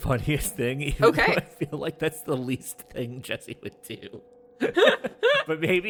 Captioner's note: BOTH laugh